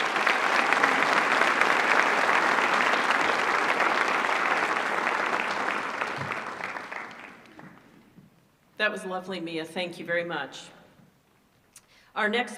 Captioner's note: applause